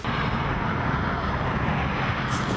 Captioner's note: traffic noises